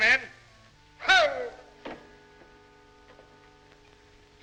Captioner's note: Gasspon exclaims